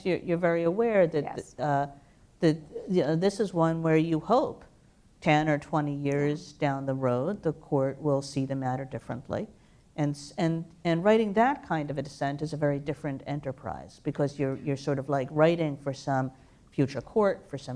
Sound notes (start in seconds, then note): none